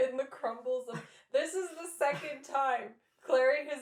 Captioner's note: laughter